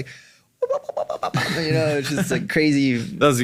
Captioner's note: vocalizes